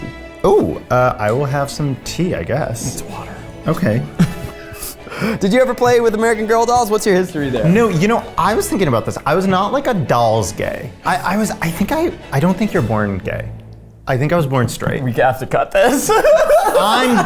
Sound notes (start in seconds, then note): 3.1 whispers; 15.8 laughs